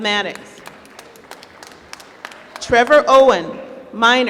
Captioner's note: applause